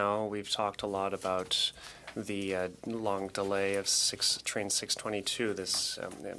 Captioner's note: speaking French